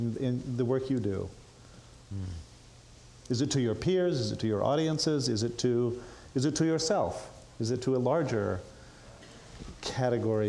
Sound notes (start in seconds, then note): none